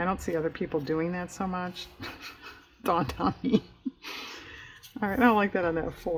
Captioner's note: laughs